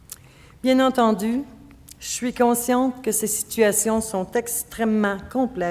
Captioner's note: speaking French